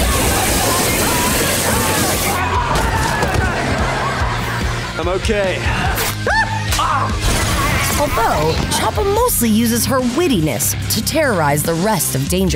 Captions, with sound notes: [screaming] I'm okay. [yelping] Although, Chapa mostly uses her wittiness to terrorize the rest of Danger Force.